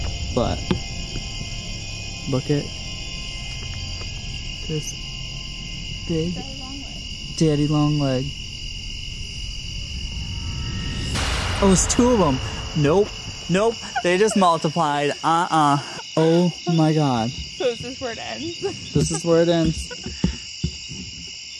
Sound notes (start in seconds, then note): 10.9 ominous clap